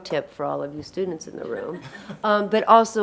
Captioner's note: audience laughing